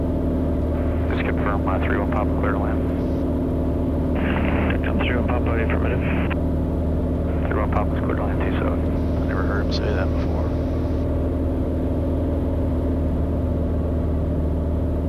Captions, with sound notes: (radio chatter) - I never heard him say that before.